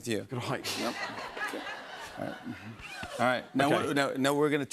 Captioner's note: laughter